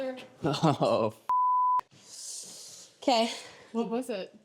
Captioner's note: beep